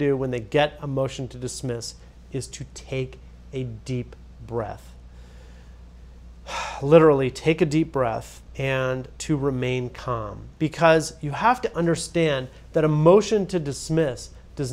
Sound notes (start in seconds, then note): 5.0 exhales